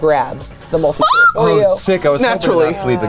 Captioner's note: yelps